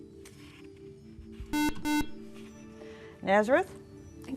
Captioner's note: buzzer